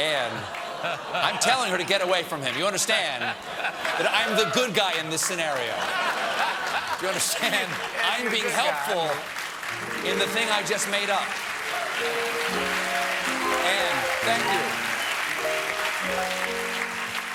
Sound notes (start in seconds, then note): 11.9 applause; 11.9 cheers